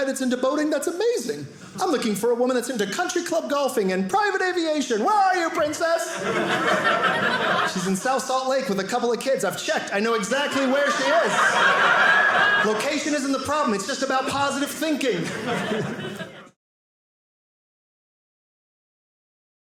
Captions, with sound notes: into boating? That's amazing. I'm looking for a woman that's into country club golfing and private aviation. Where are you, princess? (audience laughing) She's in South Salt Lake with a couple of kids. I've checked. I know exactly where she is. (audience laughing) Location isn't the problem, it's just about positive thinking.